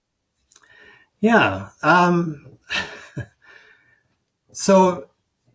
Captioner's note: chuckles